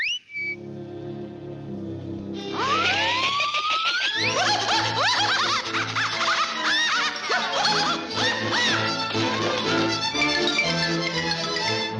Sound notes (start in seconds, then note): 0.0 flame whistles; 4.1 spider cackling hysterically; 8.6 dramatic upbeat music